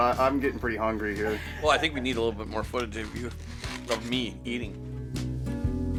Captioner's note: laughing